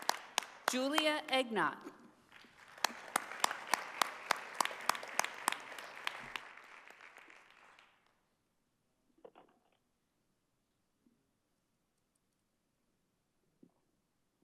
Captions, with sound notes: - Julia Egnot. (audience applauding)